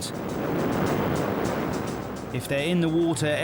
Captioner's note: boat engine revving